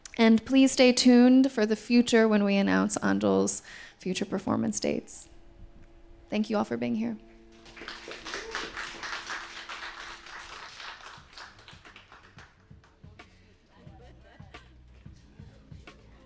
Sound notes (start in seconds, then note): 7.5 audience clapping; 13.5 upbeat music